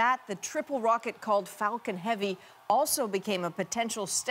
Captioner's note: applause; cheers and Applause